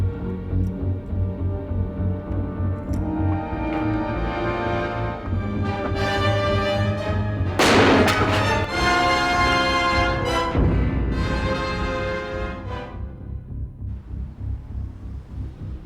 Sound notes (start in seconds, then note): 7.4 dramatic music; 7.6 gun fires; 7.8 dramatic music